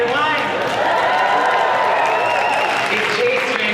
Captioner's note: crowd cheering